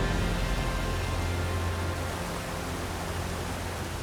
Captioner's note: water rushing